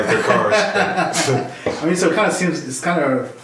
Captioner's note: laughing